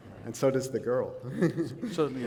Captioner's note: laughter